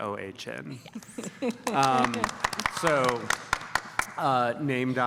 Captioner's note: applause